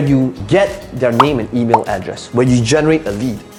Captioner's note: bubbles popping